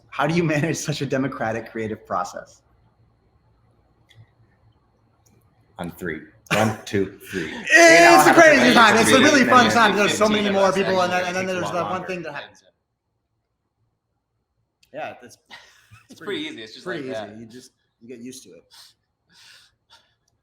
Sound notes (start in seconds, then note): 15.7 chuckles